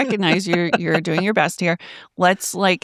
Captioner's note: laughing